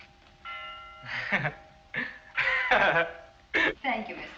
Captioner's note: laughs